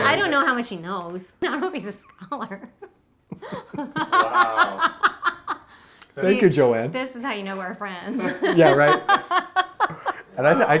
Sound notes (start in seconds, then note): 3.3 laughing; 8.1 laughing